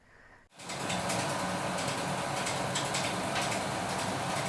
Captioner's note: film reel spins